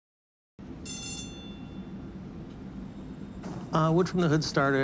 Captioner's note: train bell ringing